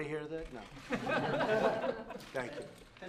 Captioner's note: laughter